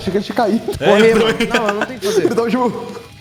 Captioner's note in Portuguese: ahahah!